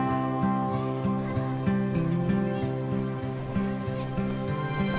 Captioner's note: children faintly speaking